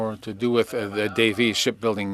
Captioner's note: speaking French